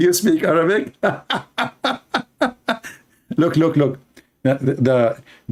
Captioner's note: laug hter; Ketawa